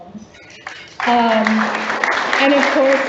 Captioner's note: audience applauds